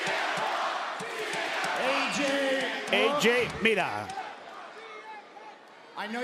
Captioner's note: applause